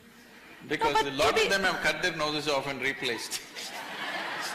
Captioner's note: laughter